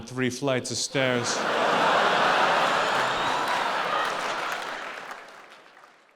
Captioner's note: audience laughing and applauding